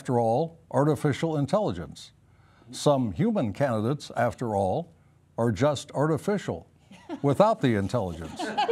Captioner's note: laughter